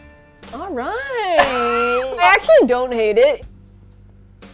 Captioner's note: laughs